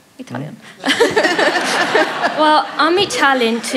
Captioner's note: laughter